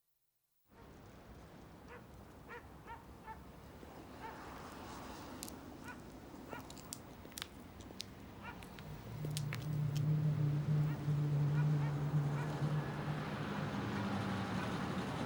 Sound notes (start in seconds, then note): 2.8 dog barking; 5.8 high heels clicking; 12.0 car engine rumbling